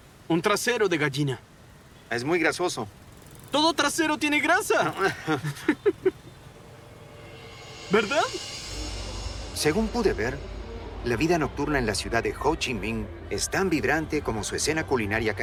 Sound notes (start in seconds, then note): 4.6 laughs